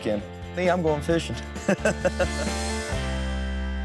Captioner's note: laughs